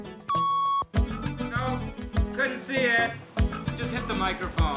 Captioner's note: machine beeping